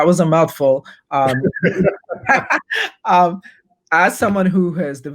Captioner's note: both laughing